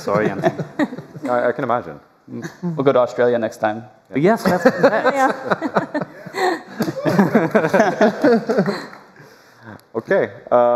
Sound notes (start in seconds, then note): 6.6 laughter